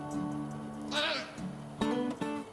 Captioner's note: bear makes squawking noise after being zapped by electric fence